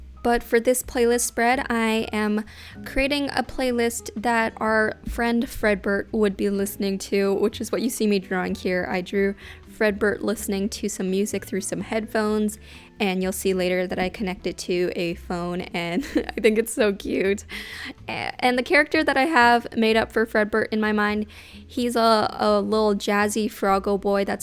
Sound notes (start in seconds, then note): 15.9 chuckles